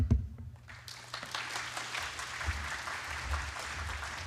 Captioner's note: applause